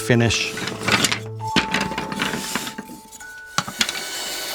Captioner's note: wood clattering; lathe whirring